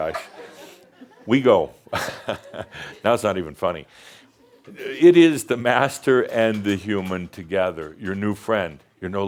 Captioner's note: Adamus chuckles